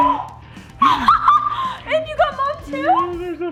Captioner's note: exclaiming